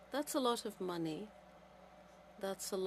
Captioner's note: speaking French